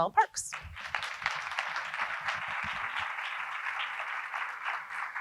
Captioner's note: audience applauding